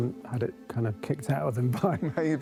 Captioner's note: chuckles